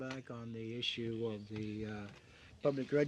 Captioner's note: speaking French